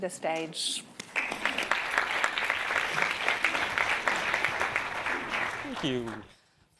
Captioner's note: applause